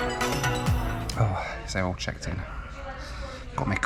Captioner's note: sighs